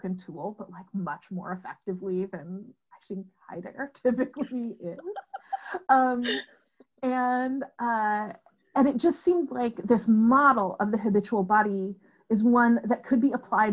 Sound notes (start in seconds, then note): 6.9 laughter